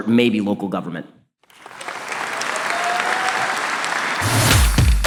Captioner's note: audience applause